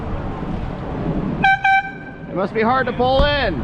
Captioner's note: air horn x2